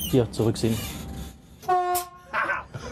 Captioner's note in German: Hupen